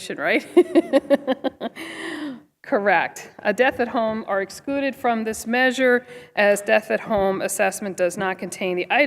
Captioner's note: laughter